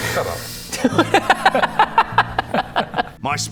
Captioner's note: murder hobo laugh